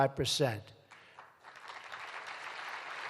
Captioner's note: applause